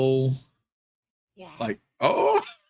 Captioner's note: speaking softly